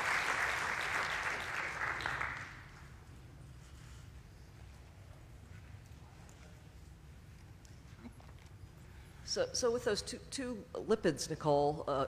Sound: applause

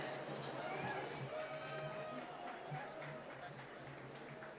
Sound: applause

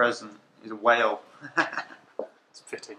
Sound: laughs

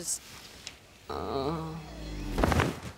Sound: groaning, thudding

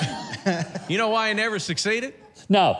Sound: laughs

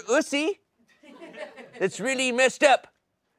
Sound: laughter

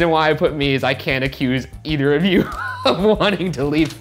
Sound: laughs

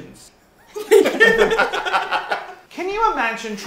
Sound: artists laughing

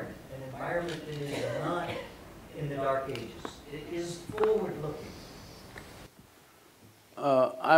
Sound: Sadhguru laughs

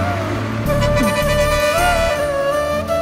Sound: horn blares

